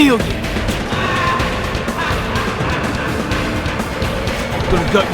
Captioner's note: maniacal laughing